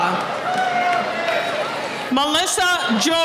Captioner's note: cheering